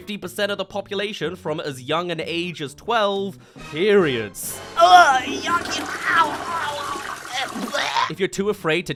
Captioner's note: gags